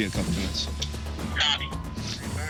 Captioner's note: radio